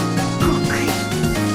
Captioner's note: gulped